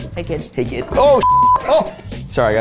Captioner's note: beep